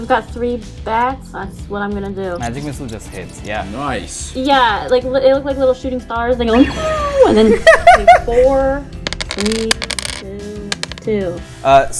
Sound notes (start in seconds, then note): 6.5 laughter